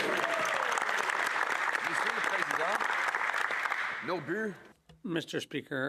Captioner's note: speaking French